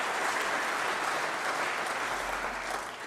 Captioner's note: applause